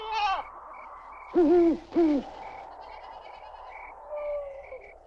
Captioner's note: owl hooting